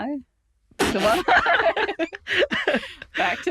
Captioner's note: laughing sounds can be heard